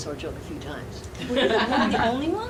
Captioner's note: laughing